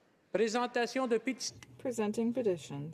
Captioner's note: speaking French